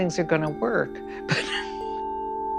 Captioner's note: chuckles